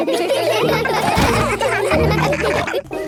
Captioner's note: all laughing; Steven giggles